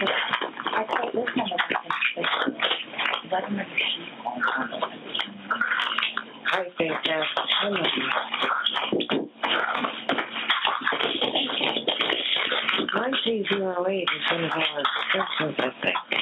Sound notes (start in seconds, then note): 10.8 laughs